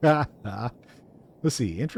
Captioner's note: laughs